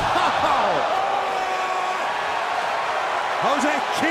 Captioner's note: crowd cheering